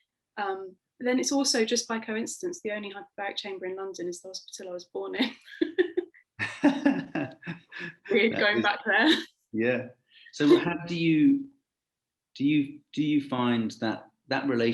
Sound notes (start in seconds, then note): 6.4 laughing